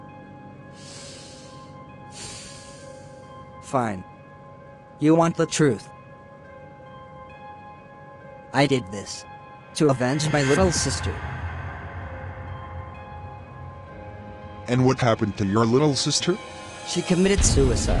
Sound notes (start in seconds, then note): 2.0 exhale; 2.0 inhale; 16.3 creepy riser